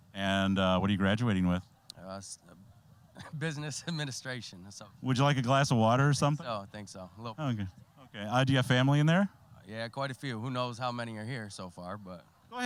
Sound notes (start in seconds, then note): 3.1 chuckling